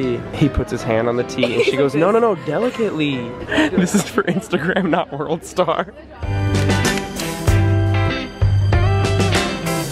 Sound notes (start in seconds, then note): 0.0 speaking in foreign language; 1.3 laughing; 3.4 laughing; 6.2 funky music